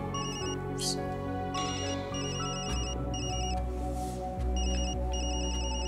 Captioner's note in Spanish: Sigue sonando el teléfono